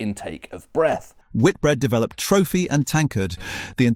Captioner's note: breathes in